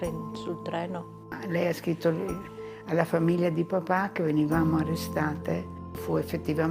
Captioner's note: speaking in foreign language